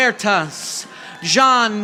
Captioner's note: audience applauding